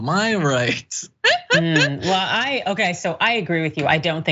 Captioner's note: laugh